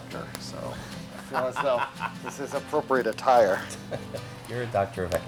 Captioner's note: laugh